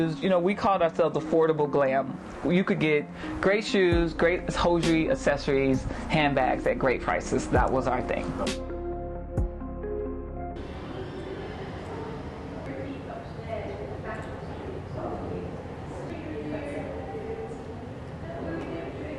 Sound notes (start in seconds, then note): 9.3 soft music; 13.0 people chattering